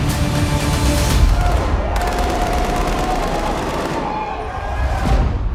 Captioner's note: cheering; gunshots